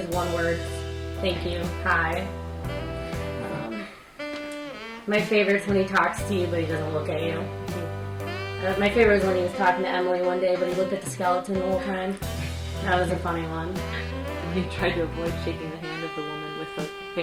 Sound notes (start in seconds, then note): 13.8 laughing